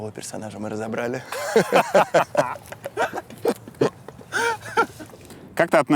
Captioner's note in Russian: смеются